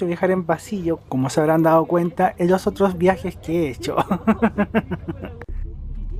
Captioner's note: laughs